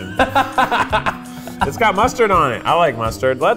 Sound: laughs heartily

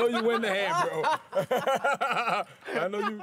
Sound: laughter

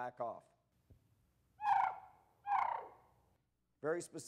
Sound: Raven Warning Sound

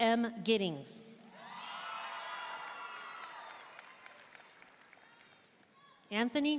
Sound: audience cheering and applauding

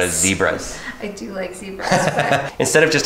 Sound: laughs

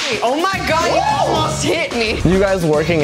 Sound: cheers

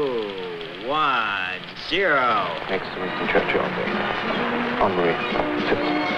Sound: television sound

